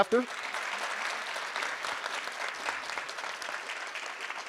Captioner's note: audience applause